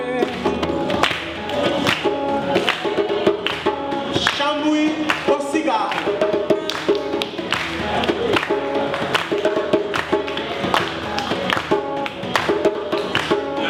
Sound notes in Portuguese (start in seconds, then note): 1.2 Palmas ritmadas do público